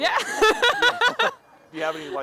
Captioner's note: laughing